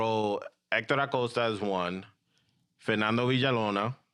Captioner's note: speaking In Foreign Language